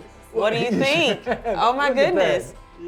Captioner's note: laughs